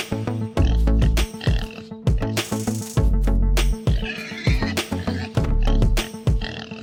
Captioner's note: pig noises